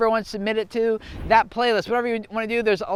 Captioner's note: air whooshing